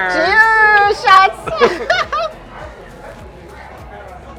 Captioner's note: laughing